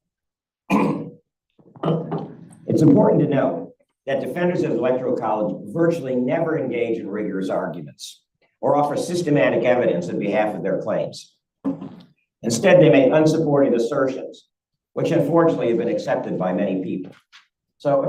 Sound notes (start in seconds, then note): 0.6 clears throat